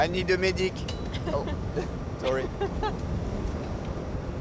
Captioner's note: laughs